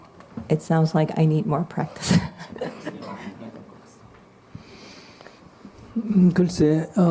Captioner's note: questioner Laughter